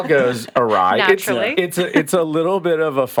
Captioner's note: chuckles; podcasters laughing